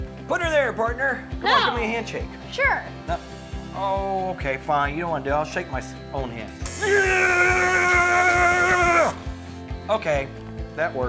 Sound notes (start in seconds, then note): 6.6 buzzing; 6.7 exclaiming